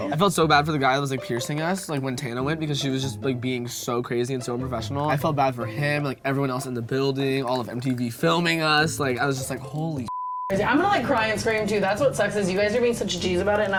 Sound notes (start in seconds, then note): 10.0 beep